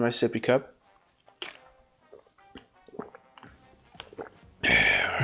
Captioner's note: gulping and sighing